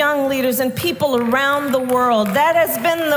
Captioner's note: applause